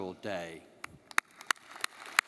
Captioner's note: applauds; audience applauding